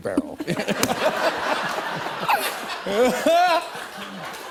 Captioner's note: laughter